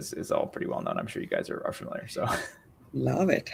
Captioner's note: chuckles